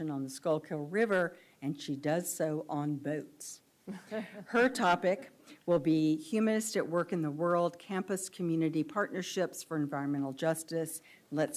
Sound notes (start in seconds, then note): 4.4 audience laughs